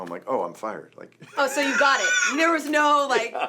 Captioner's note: laughs